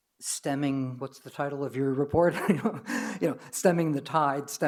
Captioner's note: laughs